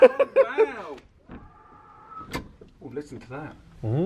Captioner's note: wind howling